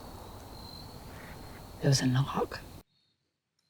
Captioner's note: object bangs